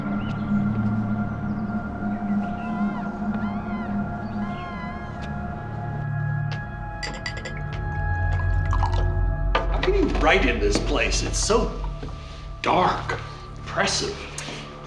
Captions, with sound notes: (birds tweeting) (seagull squawking) (liquor pouring) - You need light in this place. It's so dark. Oppressive.